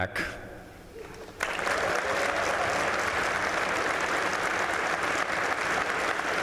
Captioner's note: applause